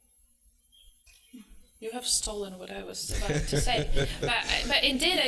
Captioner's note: laughter